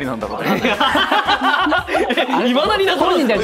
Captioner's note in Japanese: 笑い